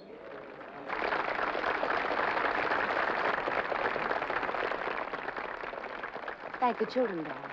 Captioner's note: applause